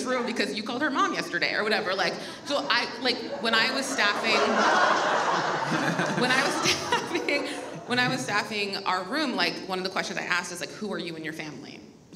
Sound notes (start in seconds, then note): 2.4 audience laughs